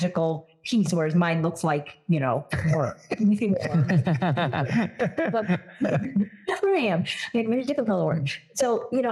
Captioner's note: laugh